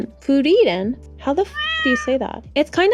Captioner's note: meow